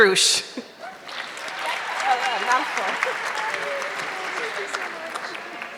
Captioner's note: audience clapping